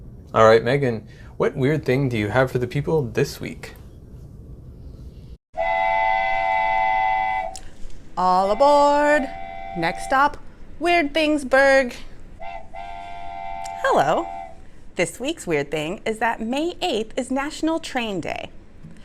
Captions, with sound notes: Alright Megan, what weird thing do you have for the people this week? [Train horn] All aboard! Next stop, Weirdthingsburg! [continued train horn in background] Hello. This week's weird thing is that May 8th is National Train Day.